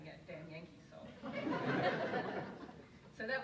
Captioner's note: audience laughs